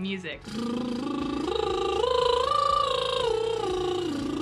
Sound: buzzing lips

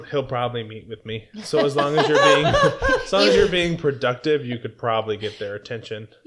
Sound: laughter

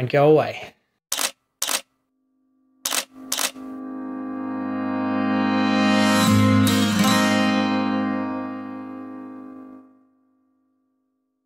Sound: camera shutter sounds and music swells

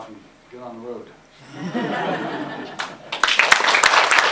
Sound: audience Laughter

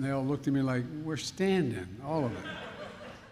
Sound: laughter

